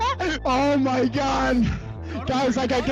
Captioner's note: laughs; laughs maniacally